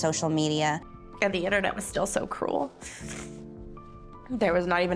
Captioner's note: sniffles